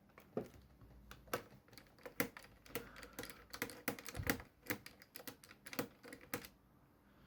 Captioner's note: unscrewing sound